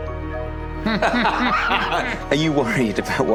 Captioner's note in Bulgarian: смее се